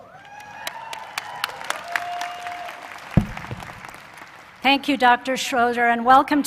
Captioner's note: applause